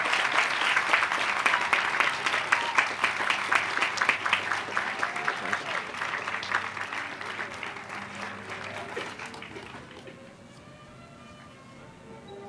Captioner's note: applause